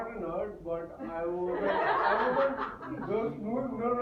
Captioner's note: slight pause, laughter in audience